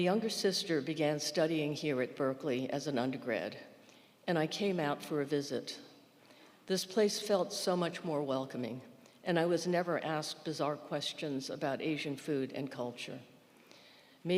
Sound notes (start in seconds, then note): none